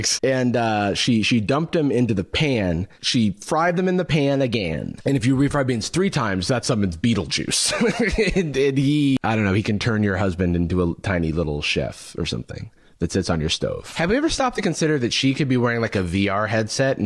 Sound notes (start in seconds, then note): 7.6 laughs